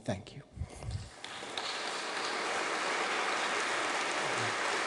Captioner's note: audience clapping